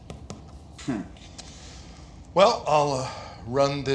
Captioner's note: chuckles